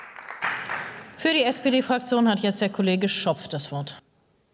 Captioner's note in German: Beifall